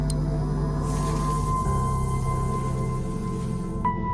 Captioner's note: sizzles; laser hum; sizzle